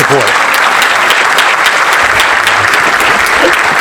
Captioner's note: applause